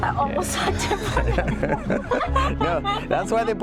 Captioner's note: laughing